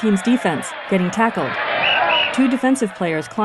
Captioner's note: whistle blows